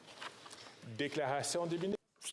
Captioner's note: speaking French